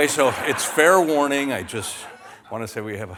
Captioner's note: laughter